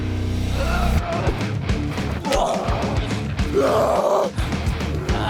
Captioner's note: both moaning